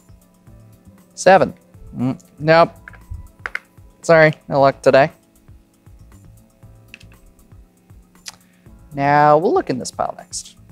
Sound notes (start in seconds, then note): 3.4 chips clattering